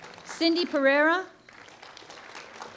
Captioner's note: applause